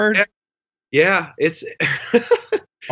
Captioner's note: laughs